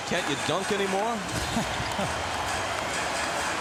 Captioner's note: chuckles